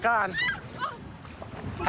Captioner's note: screaming